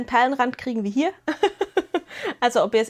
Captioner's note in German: gelächter